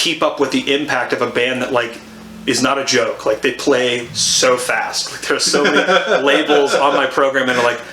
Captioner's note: laughs